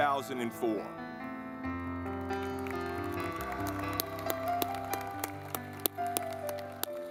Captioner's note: gentle music; audience clapping